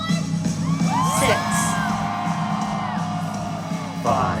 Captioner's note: cheering